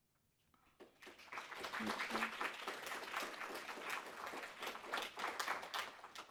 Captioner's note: crowd clapping